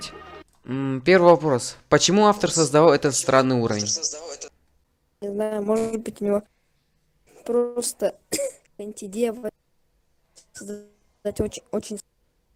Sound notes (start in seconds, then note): 8.3 cough